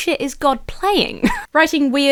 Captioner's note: laughs